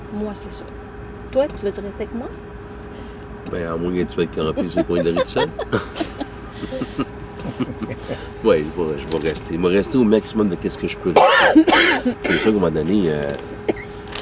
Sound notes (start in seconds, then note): 4.3 laughs